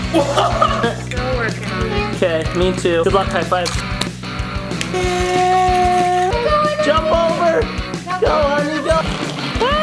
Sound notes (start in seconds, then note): 0.0 laughs; 4.8 drill running